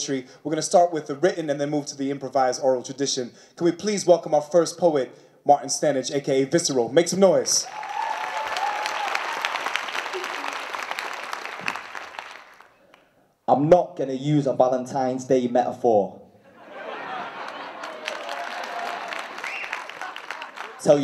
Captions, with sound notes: We're gonna start with the written and move to the improvised oral tradition. Please welcome our first poet, Martin Stannage, aka Visceral. - Make some noise. - (cheering and applause) I'm not gonna use a Valentine's Day metaphor... (laughter) (applause)